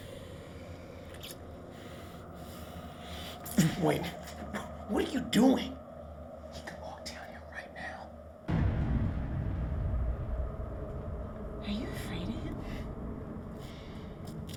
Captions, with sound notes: - Wait. What are you doing? He could walk down here right now. (thunder booming) - Are you afraid of him?